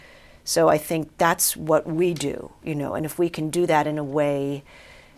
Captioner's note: none